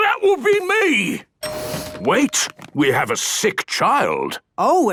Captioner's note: door dings open